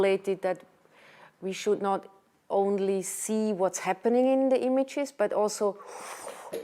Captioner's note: whooshing